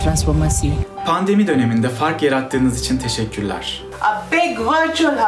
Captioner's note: educator speaks in foreign language